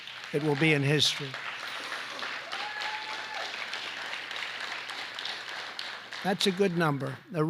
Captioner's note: applause